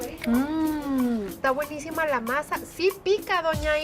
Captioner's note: speaking Spanish